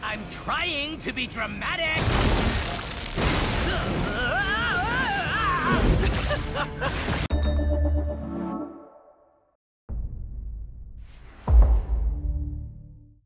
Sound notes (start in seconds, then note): 4.0 screaming; 5.9 chuckles